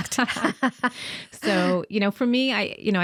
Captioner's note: both laughing